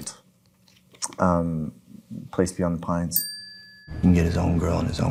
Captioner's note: bell dings